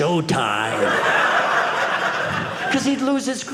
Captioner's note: audience laughing